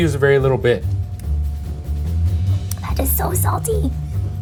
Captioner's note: tasting